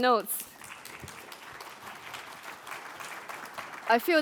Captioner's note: applause